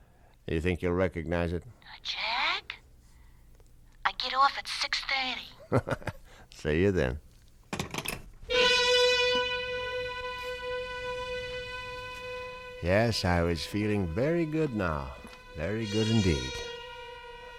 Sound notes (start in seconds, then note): 5.6 chuckles; 7.3 phone hangs up; 8.4 dramatic music plays